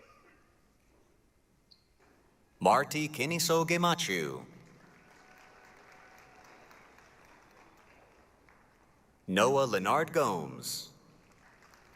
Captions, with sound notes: Marti Kinnisso Gemachu. [APPLAUSE, CHEERING] Noah Leonard Gomes.